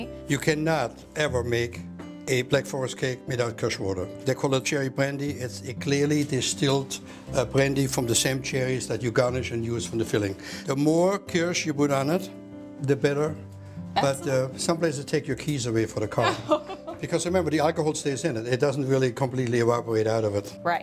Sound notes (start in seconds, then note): 16.1 laughs